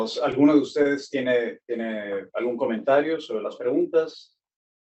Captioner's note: speaking Spanish